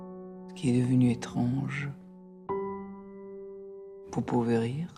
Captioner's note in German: Gespräch im Film